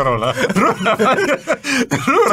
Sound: laughter

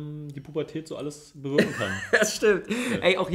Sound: laughs

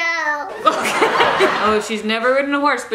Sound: audience laughing

